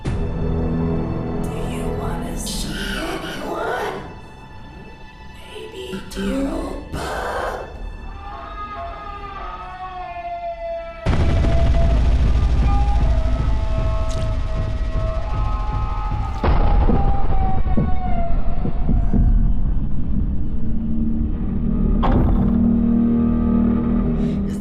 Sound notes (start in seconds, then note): 0.1 soft ominous music; 8.0 Bud screaming; 10.5 soft ominous music; 20.5 soft ominous music continues